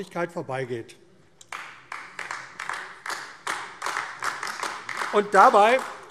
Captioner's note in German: Beifall AfD